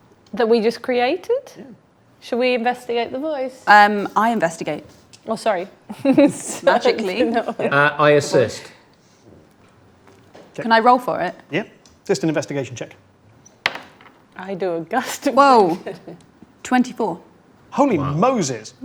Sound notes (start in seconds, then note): 5.8 laughs; 15.4 laughs